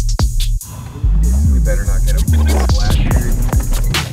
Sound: beep

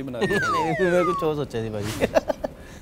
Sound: laughing

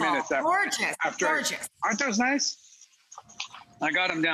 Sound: pans sizzling

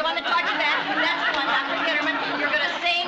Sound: Lucy Humming

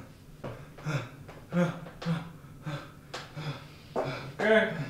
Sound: man gasping

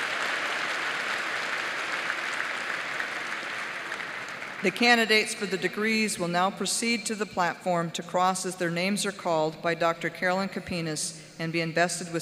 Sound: applause

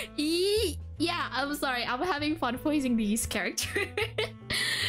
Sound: chuckles

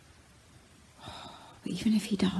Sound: sighs

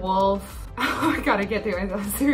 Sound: laughs

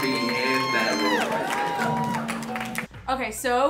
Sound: guests cheering

